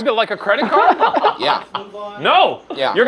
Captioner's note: laughing